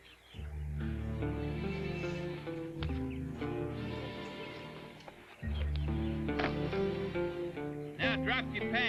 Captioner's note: anxious tone